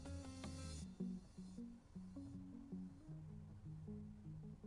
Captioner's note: none